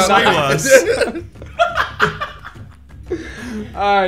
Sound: group laughing

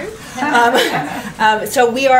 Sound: laughter

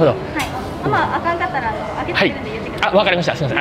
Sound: staff speaks in japanese

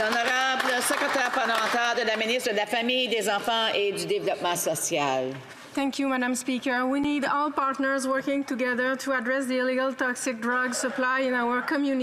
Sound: some Applause

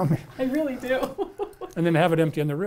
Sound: laughs

